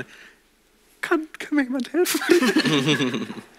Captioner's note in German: kleinlaut; Lachen